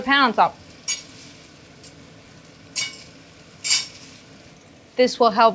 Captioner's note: meat weights clanking